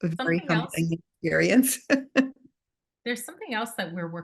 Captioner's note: laughs